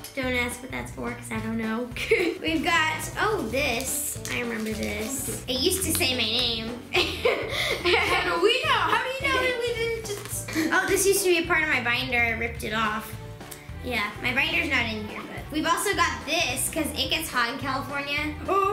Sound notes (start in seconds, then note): 6.9 laughing